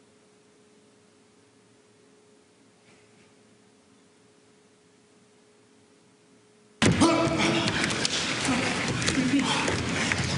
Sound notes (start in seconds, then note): 7.3 thuds and heavy breathing